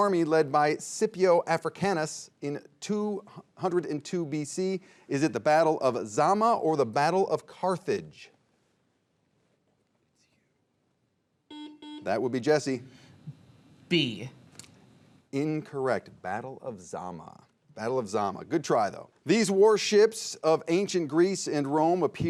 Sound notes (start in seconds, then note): 9.8 players whispering; 11.5 buzzer beeping